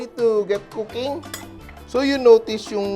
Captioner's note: clink